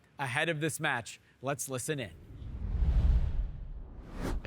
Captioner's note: scene whooshing